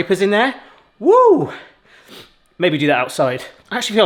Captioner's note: sniffs